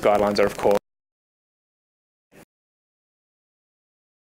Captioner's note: audio cuts out